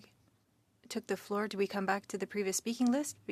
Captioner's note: speaking French